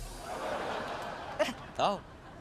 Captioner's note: audience gasps